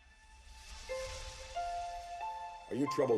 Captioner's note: whooshing